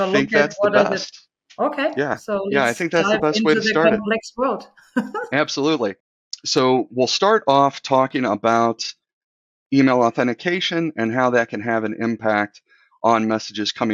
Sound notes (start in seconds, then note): 5.1 laughs